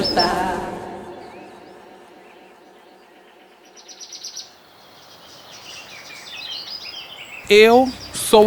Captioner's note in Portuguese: pássaros chilreando